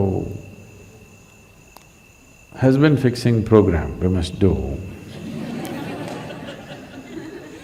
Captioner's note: laughter